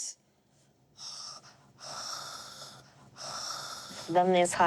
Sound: imitates snoring

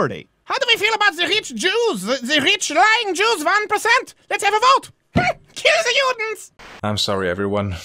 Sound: bump

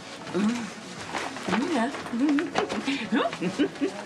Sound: Faith giggles again

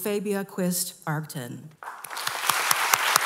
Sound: applause

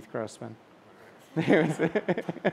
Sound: laughter

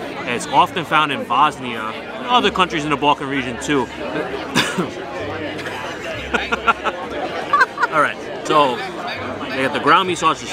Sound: laughs

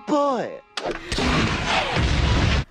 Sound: firing bazooka

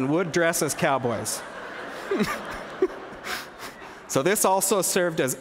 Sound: laughter

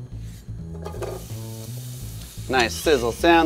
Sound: pan sizzling

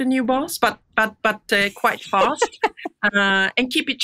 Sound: laughs

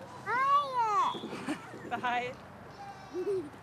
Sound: laughing; giggling

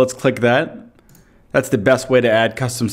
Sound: mouse clicks

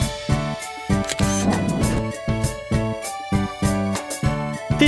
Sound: SFX: Camera Shutter

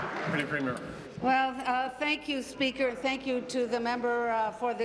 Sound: applause

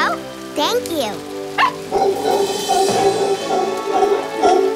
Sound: barking

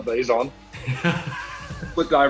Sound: laughs

